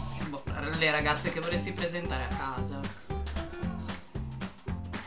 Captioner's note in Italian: ironico